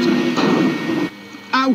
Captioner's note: bang